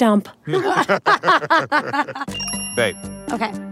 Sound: tWitch and Allison laughing

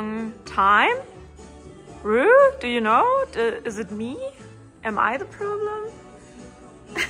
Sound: laughs

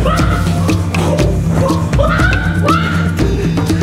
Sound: yelling

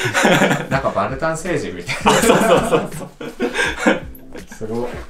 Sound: laughs

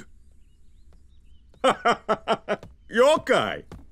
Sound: laughing

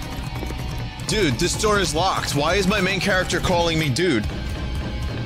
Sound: in a surfer bro voice

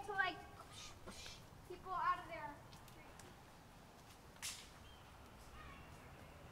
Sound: sounds of children playing

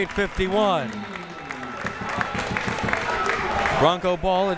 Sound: crowd members clapping

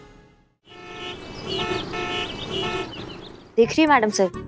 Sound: cars honking

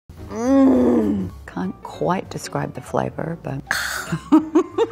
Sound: woman groaning; humphs; woman laughing

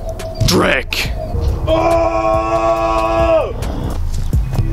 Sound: 2nd orge roar

